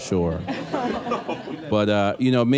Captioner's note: laughter